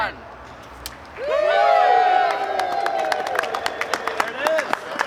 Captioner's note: applause